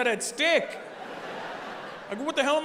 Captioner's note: audience laughing